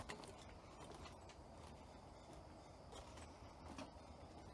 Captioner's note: footsteps tapping